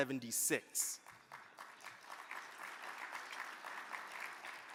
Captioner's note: crowd clapping